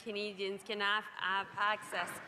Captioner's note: speaking French